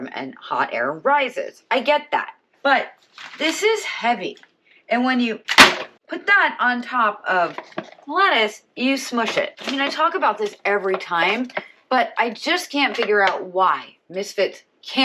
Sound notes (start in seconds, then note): 5.5 dropping bang